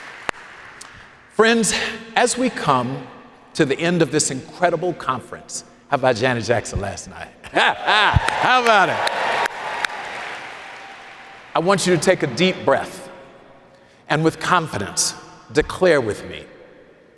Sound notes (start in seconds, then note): 7.4 laughs